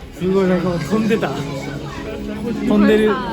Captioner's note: laughs